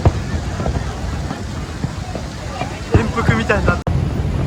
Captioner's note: laughs